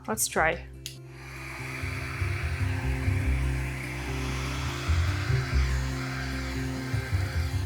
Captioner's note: gentle music; hair dryer whirring